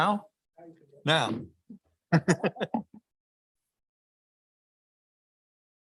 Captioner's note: laughs